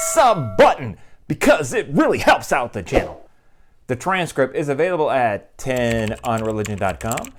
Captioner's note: bell ringing; keyboard typing